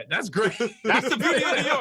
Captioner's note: laughs